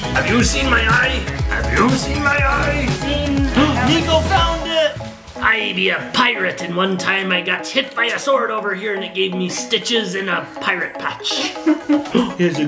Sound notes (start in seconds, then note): 0.0 pirate voice; 3.6 gasps